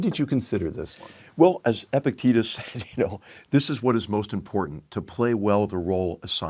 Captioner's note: laugh